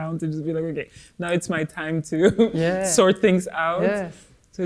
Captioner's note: laughs